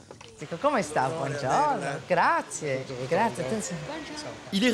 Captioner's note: speaks in Italian